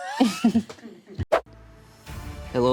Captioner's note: everyone laughs